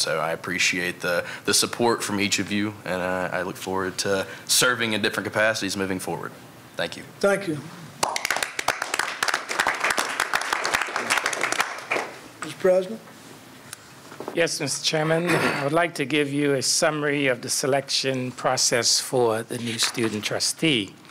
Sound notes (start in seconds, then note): 8.0 applause